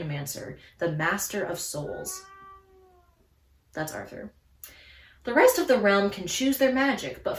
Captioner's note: cat meows